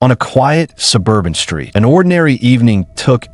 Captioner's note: voiceover